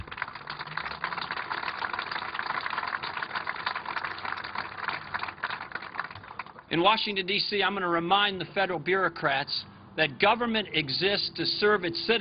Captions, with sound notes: IN WASHINGTON D.C., I'M GOING TO REMIND THE FEDERAL BUREAUCRATS THAT GOVERNMENT EXISTS TO SERVE 189 00:07:01,000 --> 00:07:00,999 ITS CITIZENS, NOT ITS EMPLOYEES. [APPLAUSE]